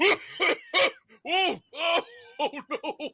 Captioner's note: coughs